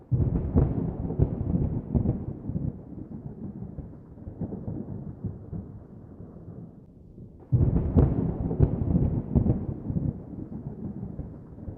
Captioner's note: wind